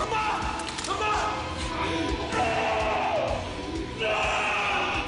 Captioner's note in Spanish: Gritos